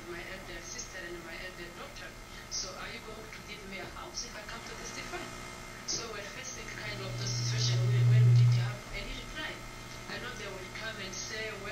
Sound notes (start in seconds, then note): 6.8 rising electronic buzzin background